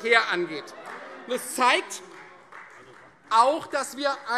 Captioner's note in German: Beifall Freie Demokraten - Zurufe: Ui!